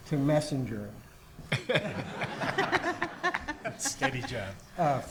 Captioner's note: audience laughs